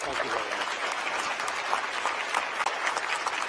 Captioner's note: applause